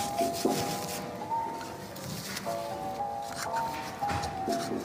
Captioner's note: cotton bud scraping